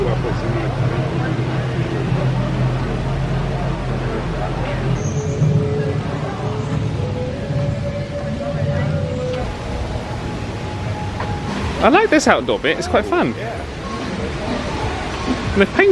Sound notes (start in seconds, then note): 1.2 guests chattering; 9.3 mysterious music